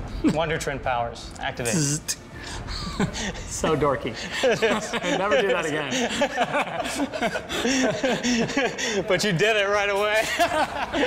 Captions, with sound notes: - Wonder Twin powers, activate. - Dzzz. Heh. So dorky. Never do that again. [BOTH LAUGHING] But you did it right away. Ha-ha-ha!